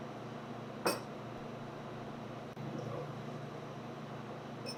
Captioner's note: bowls rattling